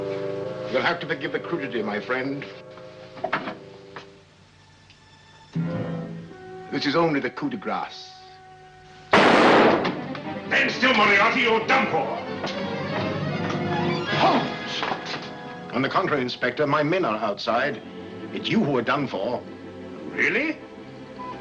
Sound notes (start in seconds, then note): 5.4 ominous music; 9.1 gunshot